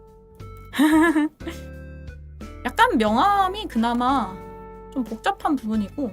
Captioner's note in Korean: 웃음